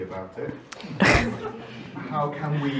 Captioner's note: audience laughing